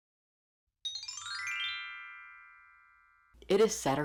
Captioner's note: magic Chime sound effect